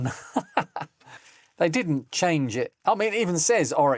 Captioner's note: laughs